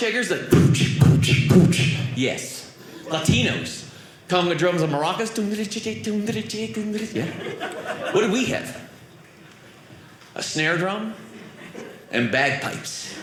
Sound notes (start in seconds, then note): 0.4 drum sounds; 5.2 imitating maracas; 13.0 audience laughing